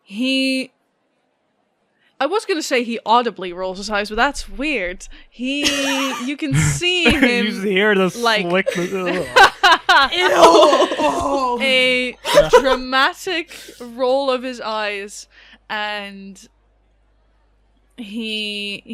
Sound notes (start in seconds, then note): 5.6 laughter; 11.7 laughing